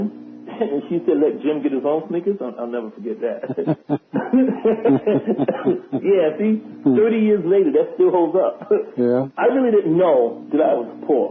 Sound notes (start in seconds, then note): 6.2 laughter